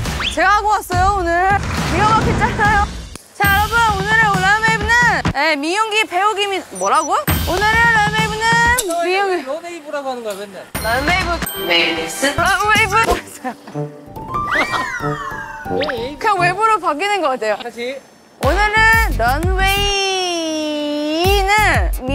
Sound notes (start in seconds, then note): 14.4 bwahaha